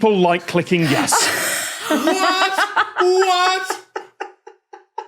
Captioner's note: laughs